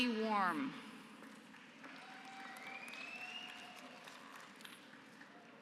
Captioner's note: applause